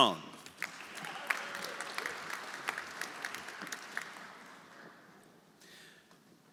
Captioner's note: audience applauding; audience cheering